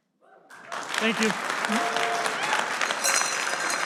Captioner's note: audience applause